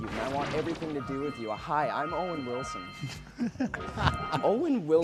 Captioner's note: laughing